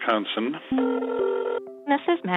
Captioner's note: phone ringing